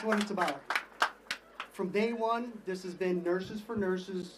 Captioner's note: applause